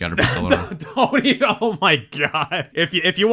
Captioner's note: laughs